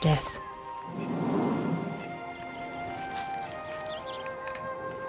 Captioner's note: elephant exhales